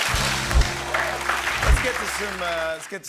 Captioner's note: cheers and applause